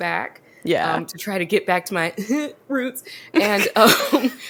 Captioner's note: silly laugh